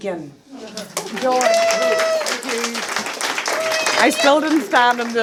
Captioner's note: applause